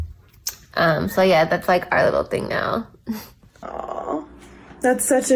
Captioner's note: giggles